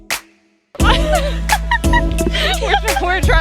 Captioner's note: laughs